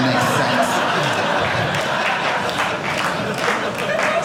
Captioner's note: audience laughing